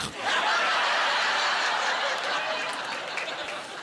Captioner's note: laughter